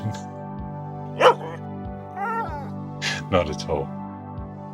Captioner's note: dog barks